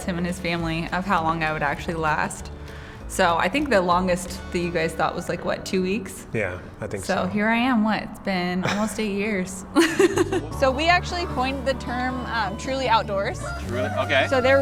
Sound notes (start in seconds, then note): 9.7 laughing